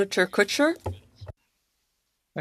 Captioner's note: speaking French